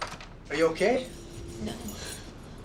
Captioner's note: keys jangling